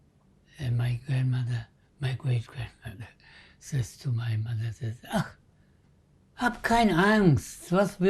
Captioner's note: german